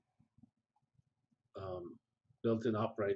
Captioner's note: pause